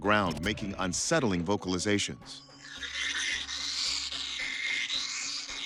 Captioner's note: bat screeching